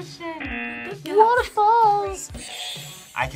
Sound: buzzer; buzzer rings; buzzer rings

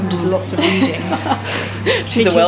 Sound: laughs

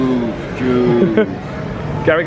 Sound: laughs

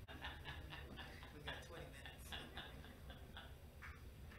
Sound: man laughing

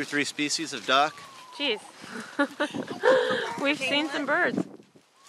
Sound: laughs

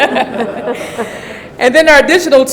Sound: laughing

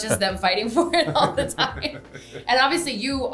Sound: all laughing

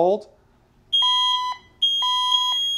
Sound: alarm ringing

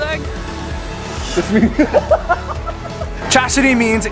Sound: laughs

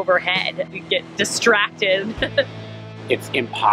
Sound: laughing

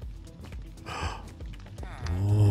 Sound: gasps

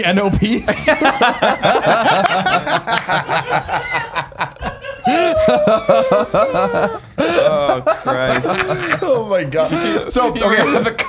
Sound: like 10 seconds of everyone laughing

